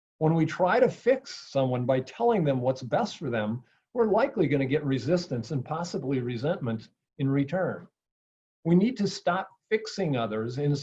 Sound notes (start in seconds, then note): none